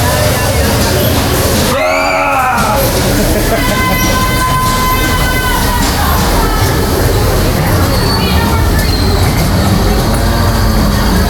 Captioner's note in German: schreien; stöhnen